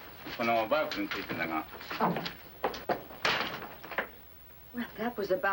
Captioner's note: speaking foreign language